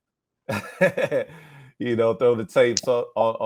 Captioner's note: laughs